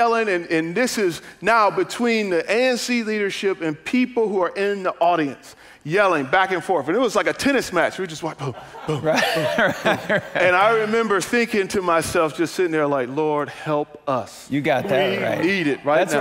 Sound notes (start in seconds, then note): 9.9 congregants laugh